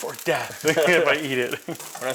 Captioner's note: laughing